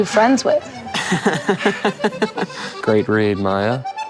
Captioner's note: Gaten laughs